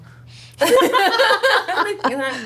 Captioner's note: laughter